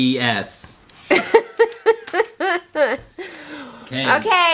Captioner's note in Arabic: يضحك